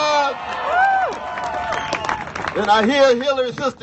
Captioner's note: cheers and applause